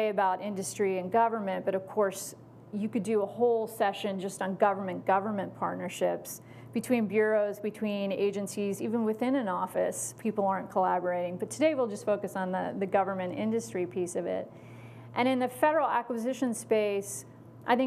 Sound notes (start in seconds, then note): none